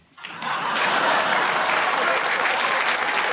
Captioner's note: laughter, applause